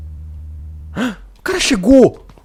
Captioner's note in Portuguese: suspiro